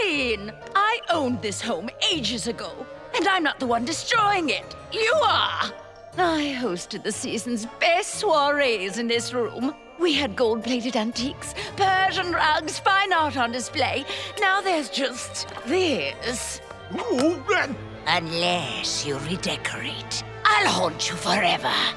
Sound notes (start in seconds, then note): 16.6 groaning